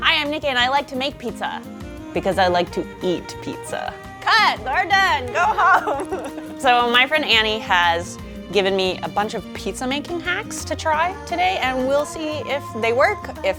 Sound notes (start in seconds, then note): 4.6 laughs